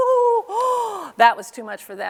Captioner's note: gasps